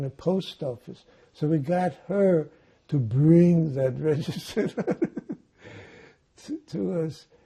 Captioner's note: laughing